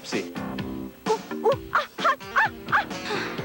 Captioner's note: woman yelps repeatedly while walking barefoot on hot sand; sigh of relief as she steps on hat